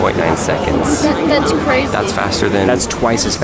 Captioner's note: voiceover